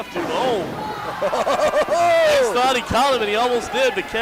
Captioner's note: laughs